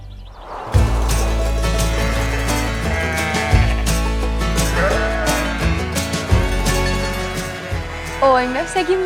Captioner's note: bleating